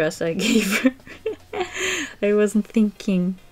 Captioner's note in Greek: Γέλια